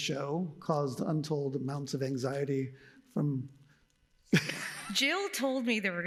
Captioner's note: laughs